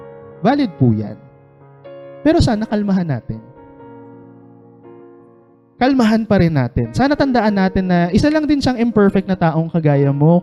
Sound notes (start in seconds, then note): none